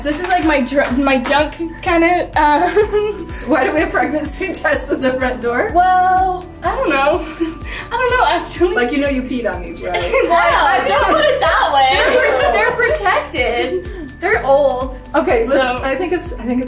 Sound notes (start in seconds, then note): 9.9 laughing